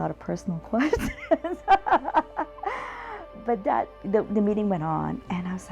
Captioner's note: laughs